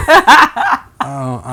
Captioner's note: laughing